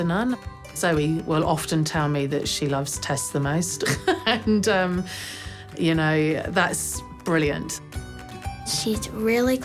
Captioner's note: laughs